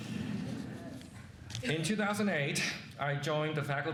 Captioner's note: laughing